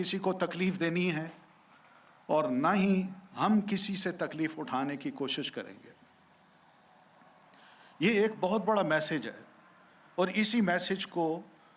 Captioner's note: speaking urdu